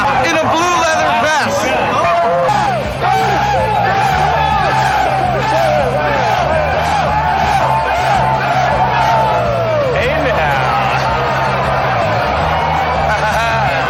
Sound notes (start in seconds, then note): 2.0 cheering and like. party noises